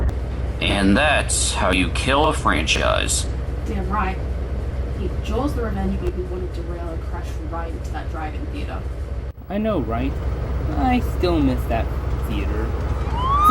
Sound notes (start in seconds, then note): none